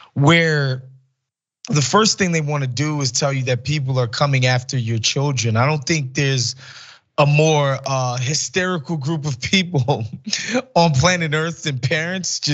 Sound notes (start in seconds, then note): 9.4 laugh